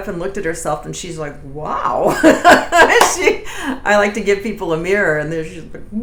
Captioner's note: laughs